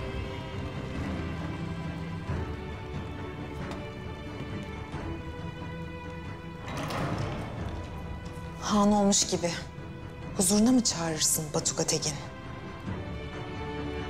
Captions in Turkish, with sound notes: [Kapı kapanma sesi] Han olmuş gibi,... ...huzuruna mı çağırırsın Batuga Tegin?